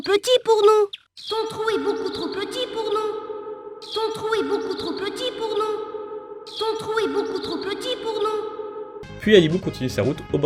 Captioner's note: "Your hole is too tight for us" echoing in the background